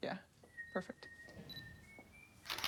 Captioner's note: camera shutter clicking